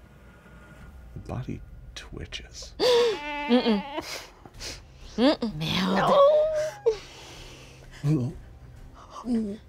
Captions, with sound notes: The body twitches. (player gasps) - Mm-mm. - Mm-mm. - No!